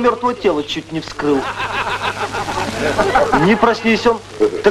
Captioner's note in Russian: смех